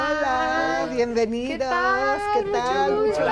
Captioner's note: speaking Spanish